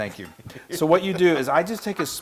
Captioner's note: laugh